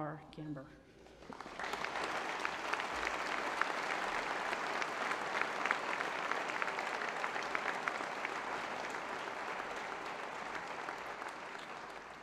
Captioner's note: applause